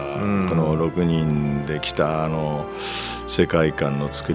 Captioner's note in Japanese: 鼻息